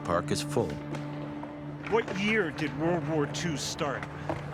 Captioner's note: voiceover